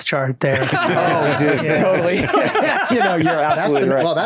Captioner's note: all laugh